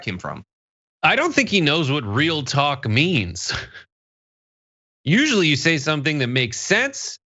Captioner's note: laugh